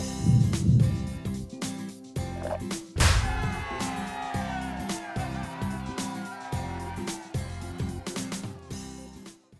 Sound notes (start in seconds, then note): 3.1 students shouting in celebration